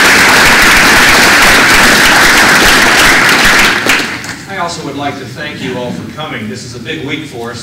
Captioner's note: applause